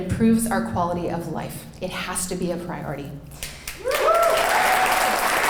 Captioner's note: clapping